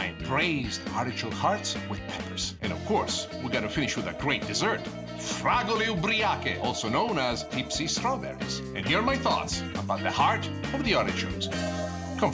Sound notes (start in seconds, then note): 5.4 foreign language